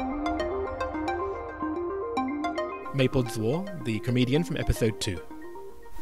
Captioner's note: voiceover